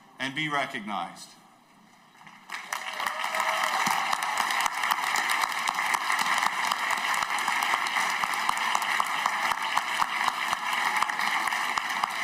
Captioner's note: applause